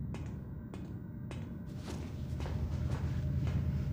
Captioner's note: sound of footsteps